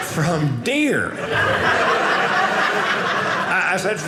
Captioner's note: audience laughing